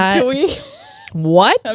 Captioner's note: faintly speaking